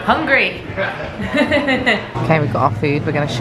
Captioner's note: laughs